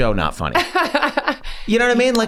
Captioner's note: laughs